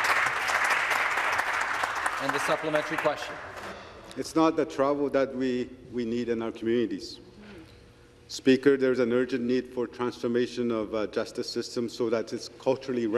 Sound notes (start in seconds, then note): 3.2 some Applause